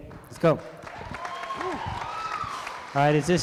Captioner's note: applause